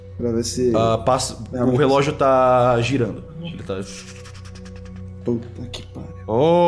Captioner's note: whirrr